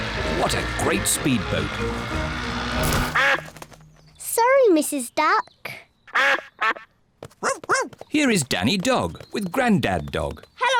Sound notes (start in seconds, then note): 2.9 duck quacks; 6.1 quacks; 7.2 barks